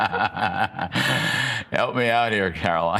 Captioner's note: laughter